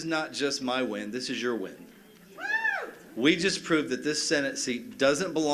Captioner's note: cheers and applause